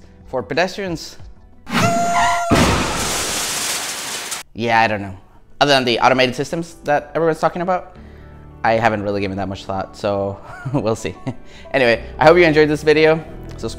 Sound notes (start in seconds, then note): 11.0 laughs